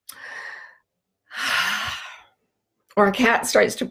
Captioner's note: sighs loudly